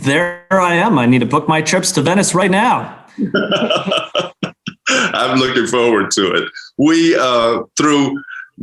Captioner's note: laughs